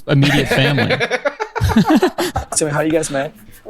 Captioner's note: laughs